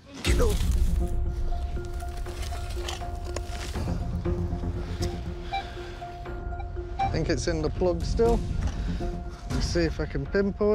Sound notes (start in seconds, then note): 0.2 suspenseful music; 6.2 beeping